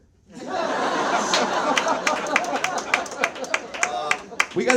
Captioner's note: audience laughs